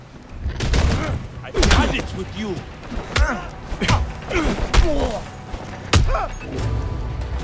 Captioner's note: groaning